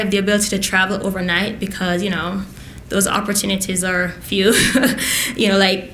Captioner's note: laughs